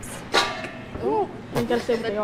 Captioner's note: metallic clang; laughing